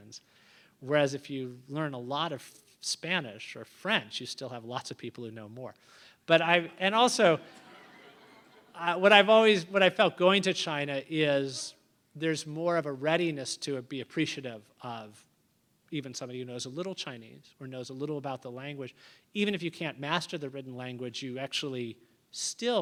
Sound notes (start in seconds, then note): 7.3 laughter